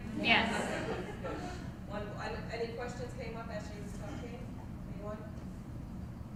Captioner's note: laugh